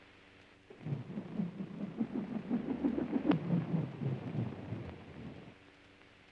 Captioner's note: aircraft whines softly